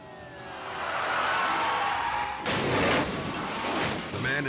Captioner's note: sirens blaring; truck imploding; truck skidding